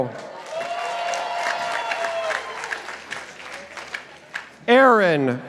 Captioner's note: participants applauding